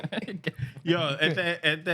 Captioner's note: speaking Spanish